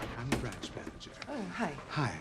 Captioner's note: none